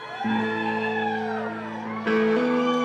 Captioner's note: cheers